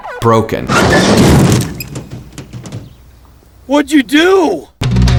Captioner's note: car door thuds